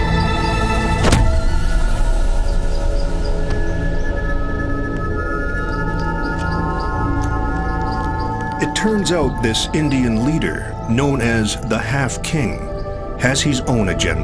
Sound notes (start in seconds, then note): 1.0 weapon thuds